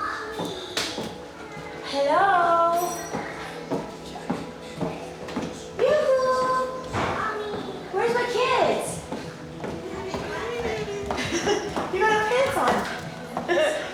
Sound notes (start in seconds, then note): 4.2 footsteps tapping